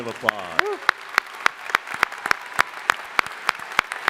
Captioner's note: crowd applauding